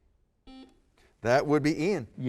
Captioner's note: buzzer